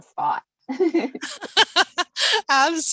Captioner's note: both laughing